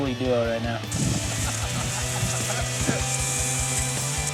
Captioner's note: laughs